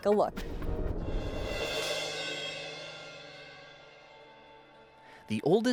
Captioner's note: transition whooshes